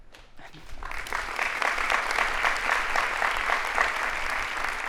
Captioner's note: audience applauding